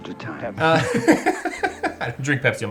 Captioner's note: laughs